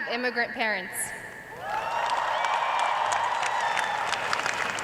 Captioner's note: cheers and applause